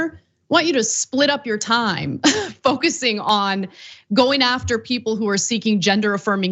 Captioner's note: laugh